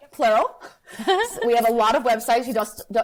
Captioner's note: laughs